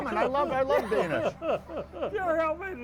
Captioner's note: laughs